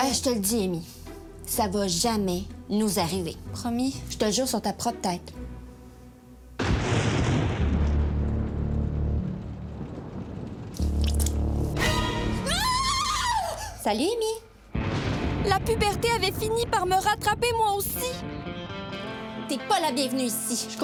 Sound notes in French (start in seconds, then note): 6.6 tonnerre; 11.1 musique angoissante